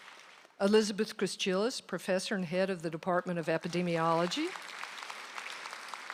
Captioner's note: applause